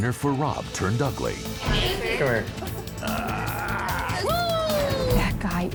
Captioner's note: hoots